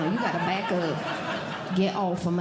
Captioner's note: audience Laughing